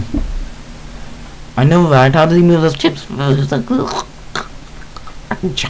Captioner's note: choking sound